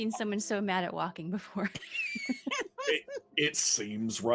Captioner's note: laughs